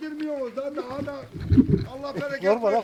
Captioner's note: camera Shakes